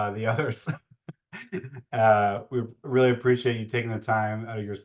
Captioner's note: laughs